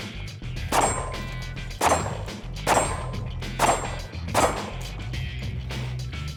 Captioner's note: gunshots